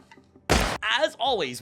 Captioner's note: incredibly loud gunshot